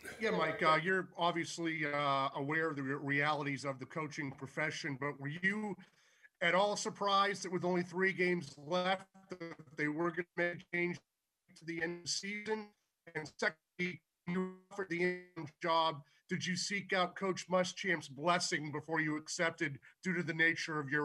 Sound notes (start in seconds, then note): 9.1 audio cuts and stutters